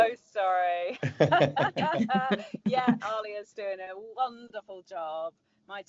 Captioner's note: laughs